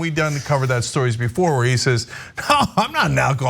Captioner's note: laugh